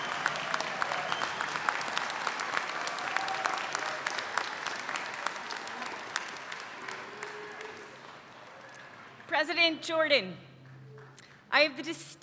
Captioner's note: applause